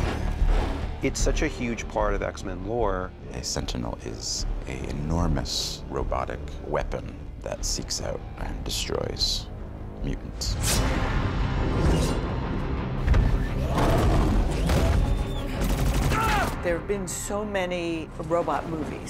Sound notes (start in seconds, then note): 13.7 roars